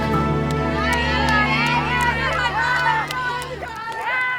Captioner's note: crowd chattering